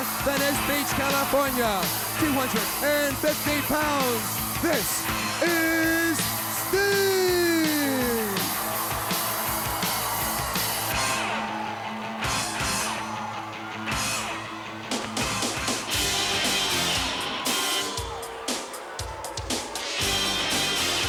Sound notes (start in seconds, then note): 9.5 crowd cheering; 9.5 rock music continues